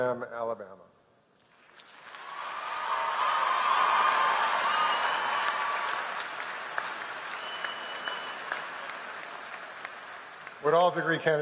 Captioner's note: applause